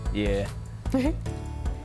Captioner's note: giggles